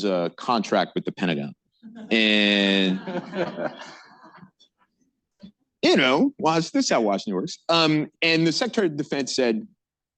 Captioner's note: laughter